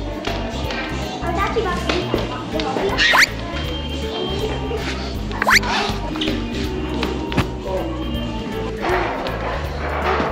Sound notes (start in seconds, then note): 3.0 slipping sound effect